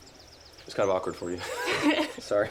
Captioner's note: Ara laughs